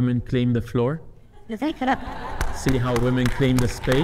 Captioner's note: audience laughing